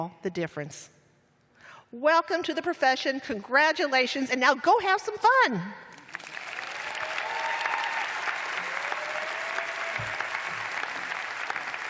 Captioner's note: cheers and applause